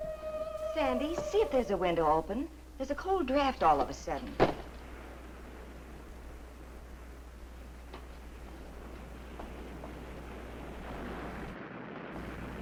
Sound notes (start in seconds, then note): 0.0 eerie music; 4.6 waves crashing nearby